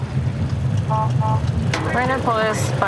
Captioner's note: horns honking